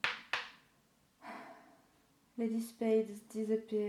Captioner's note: sound of card tapped onto desk; disappointed exhale